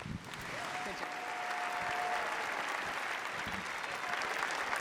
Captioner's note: cheering